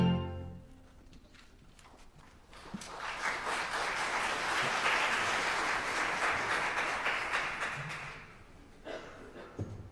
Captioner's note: applause